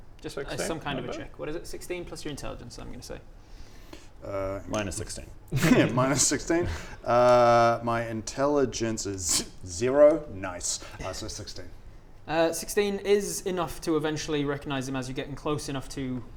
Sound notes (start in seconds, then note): 9.0 scoffs